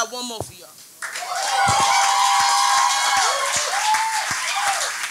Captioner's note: audience cheers and applauds